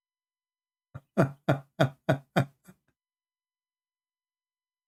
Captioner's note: Ketawa